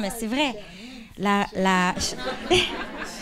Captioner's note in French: rires